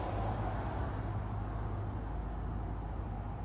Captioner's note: cars in the distance